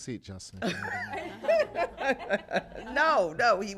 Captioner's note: laughter